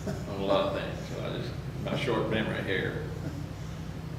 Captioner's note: chuckles